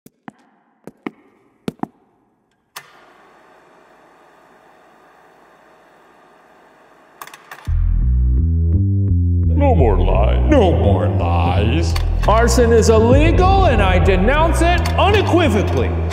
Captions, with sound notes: (switch flicks) (intense synth music) - No more lies. - No more lies. - Arson is illegal, and I denounce it unequivocally!